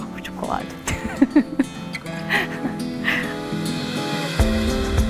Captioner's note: laughs